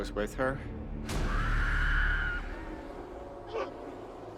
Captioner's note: screaming continues